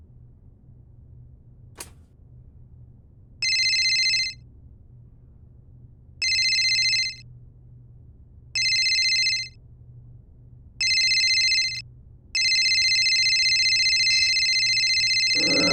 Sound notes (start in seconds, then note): 3.4 phone ringing; 12.4 continuous ringing